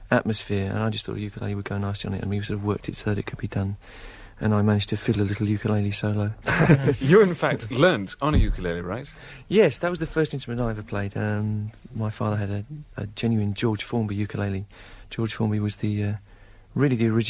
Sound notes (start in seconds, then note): 6.4 laughter